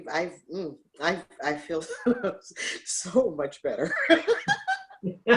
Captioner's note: laughs